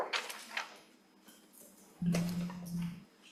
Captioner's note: none